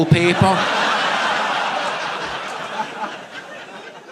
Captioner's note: audience laughing